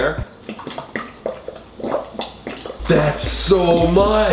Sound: liquid sloshing

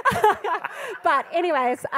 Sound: panellists and audience laughing

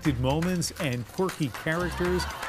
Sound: applause

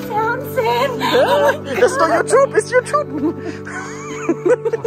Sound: both laughing

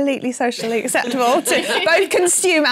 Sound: laughter

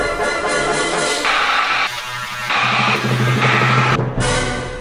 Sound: hair dryer blowing

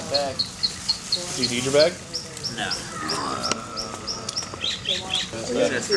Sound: faint mock vomit sound

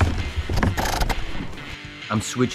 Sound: line rapidly pulled out

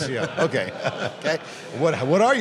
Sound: laughs

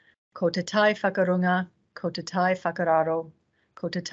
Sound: speaking in te reo Māori

